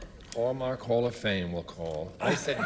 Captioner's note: laughter